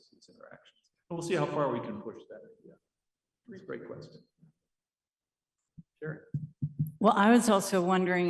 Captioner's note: pause